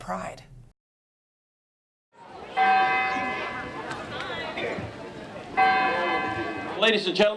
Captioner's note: bell ringing